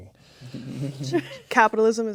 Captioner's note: players chuckling